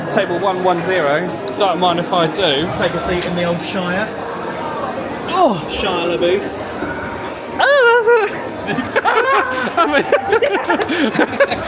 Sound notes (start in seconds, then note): 7.7 laughs; 7.8 both laugh